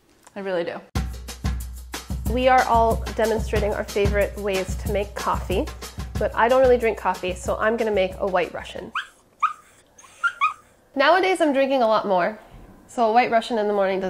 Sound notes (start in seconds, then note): 1.3 upbeat instrumental music; 8.9 dog yelping